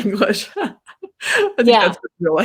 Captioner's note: laughs